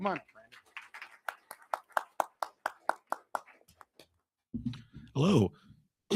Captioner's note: crowd applauding